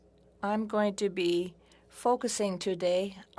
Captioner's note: speaking French